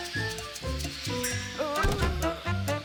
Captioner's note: gas hissing; groans